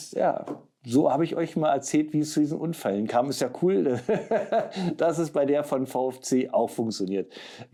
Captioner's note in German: gelächter